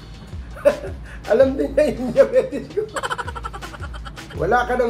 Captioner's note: laugh